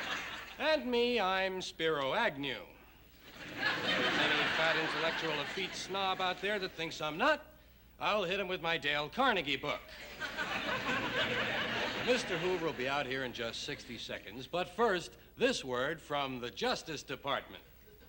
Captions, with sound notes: And me, I'm Spiro Agnew. And any fat, intellectual, effete snob out there that thinks I'm not? I'll hit him with my Dale Carnegie book. (laughter) Mr. Hoover will be out here in just 60 seconds, but first, this word from the Justice Department.